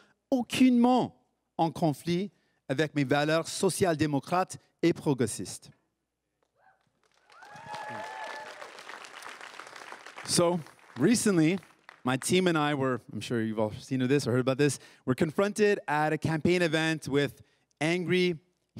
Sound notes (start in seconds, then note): 7.2 cris et applaudissements; 9.8 everyone cheering and applauding